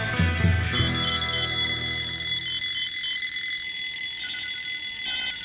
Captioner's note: alarm clock ringing